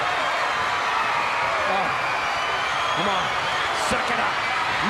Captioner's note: crowd cheering